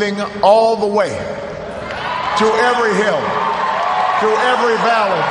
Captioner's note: cheers, applause